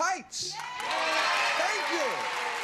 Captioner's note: cheering